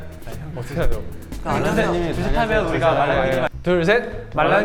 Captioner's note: chitter chatter